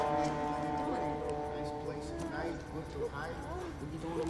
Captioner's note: people chattering